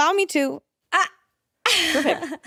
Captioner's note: laughs